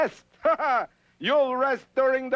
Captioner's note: scoffs